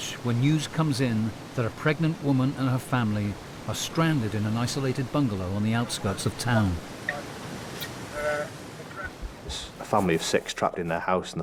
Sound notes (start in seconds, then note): 7.1 water whooshing; 8.0 water drowns out speaker